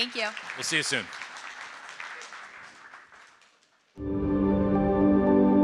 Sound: audience applauding; ambient music

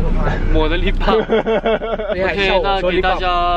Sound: laughing

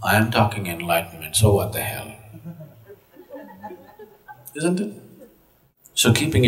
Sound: laughter

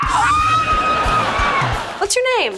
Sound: screaming

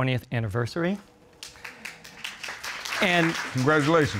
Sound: audience applauds

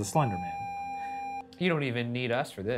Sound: video game screen beeping

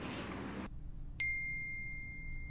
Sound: ding

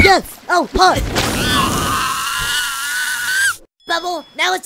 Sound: screaming

